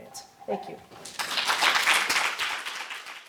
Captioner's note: clapping